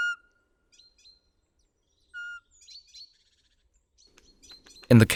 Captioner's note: szum wiatru, piskliwy głos sóweczki, głosy sikor